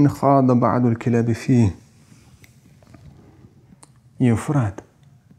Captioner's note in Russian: Говорит на арабском